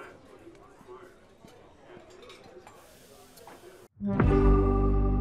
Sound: customers chattering; bright music

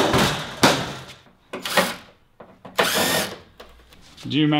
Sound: rattling; battery-powered drill

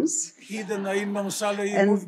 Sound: laughter; foreign language

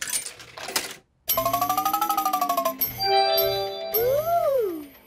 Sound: beeps and chimes

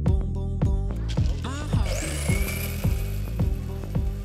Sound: coffee grinder

